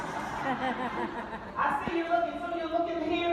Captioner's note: laughing